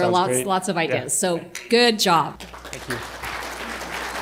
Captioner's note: applause